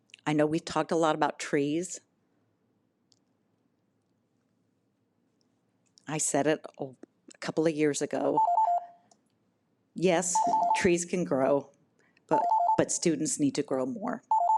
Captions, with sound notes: I know we talk a lot about trees. I said it a couple of years ago. (timer beeps) Yes, trees can grow, but students need to grow more.